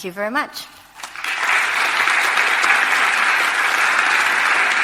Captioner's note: audience applauding